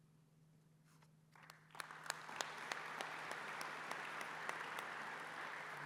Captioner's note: applause